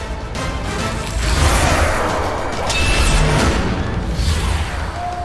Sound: whooshing sound

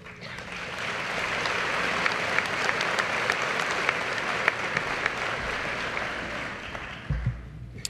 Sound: applause

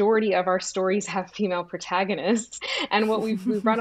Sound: giggles

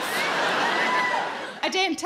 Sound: cheering

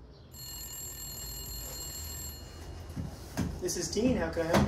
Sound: phone rings

